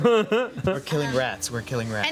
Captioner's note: laughing